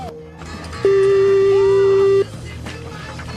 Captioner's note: beep